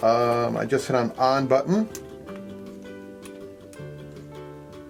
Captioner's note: button clicks